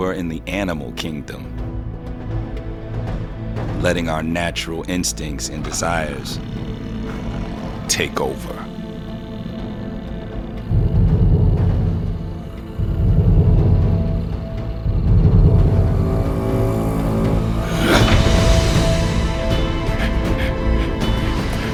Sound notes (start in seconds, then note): 8.4 growling; 11.2 deep booming; 16.5 dramatic music; 16.5 man breathing heavily